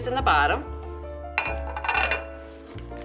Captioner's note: clanking